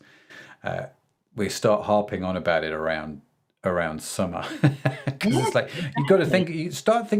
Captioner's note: laughs